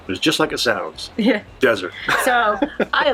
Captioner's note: laughs